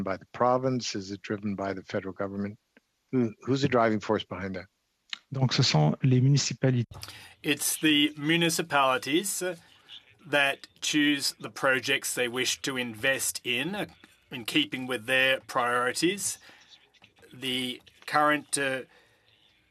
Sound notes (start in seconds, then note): 10.2 speaking French